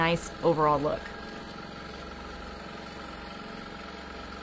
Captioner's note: longarm hums